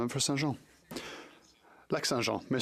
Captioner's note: speaking French